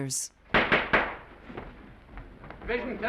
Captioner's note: gavel banging